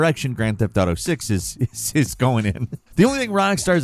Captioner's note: chuckling